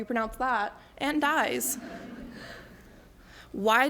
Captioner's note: laughter